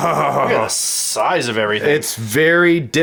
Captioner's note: chuckles; voiceover